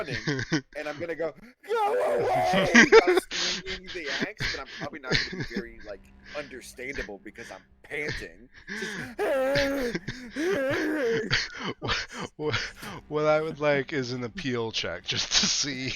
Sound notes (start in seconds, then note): 8.3 panting; 8.6 exhausted Noises